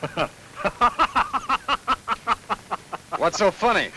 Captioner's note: Frank laughs